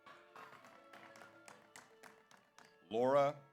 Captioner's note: audience applauds; audience cheers